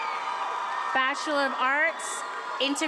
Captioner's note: attendees applauding and cheering